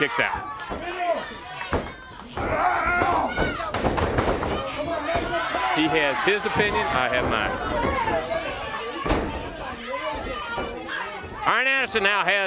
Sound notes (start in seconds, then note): 0.2 crowd cheering; 5.5 crowd chatter; 9.8 crowd cheering